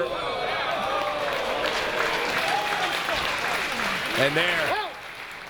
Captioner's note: applause